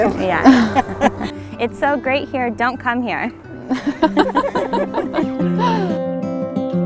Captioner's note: laughing